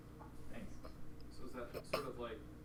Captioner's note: voiceover